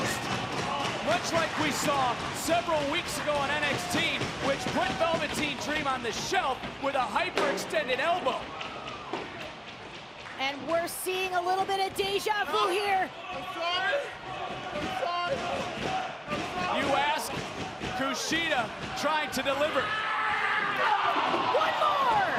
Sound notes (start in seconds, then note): 14.2 crowd chatter